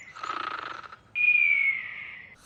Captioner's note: snoring